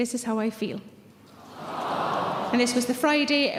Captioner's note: audience sympathising